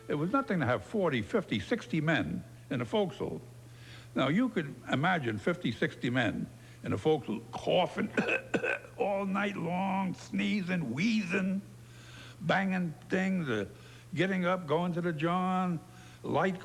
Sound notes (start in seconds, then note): 7.4 coughs